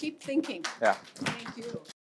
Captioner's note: applause